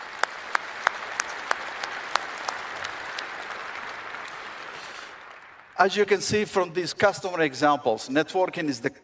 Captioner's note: applause